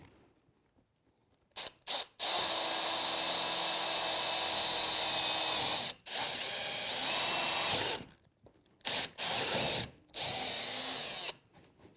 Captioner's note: drill